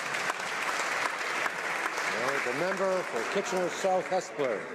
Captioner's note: some Applause